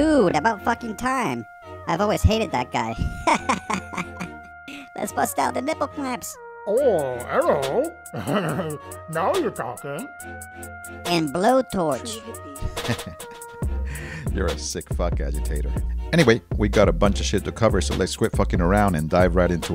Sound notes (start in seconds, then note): 3.0 laughter; 12.6 laughing